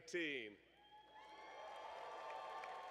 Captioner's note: cheers and applause